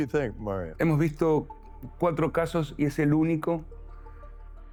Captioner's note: Spanish